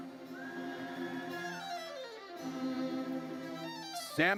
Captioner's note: audience cheers